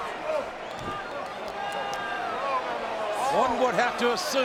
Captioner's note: crowd clamoring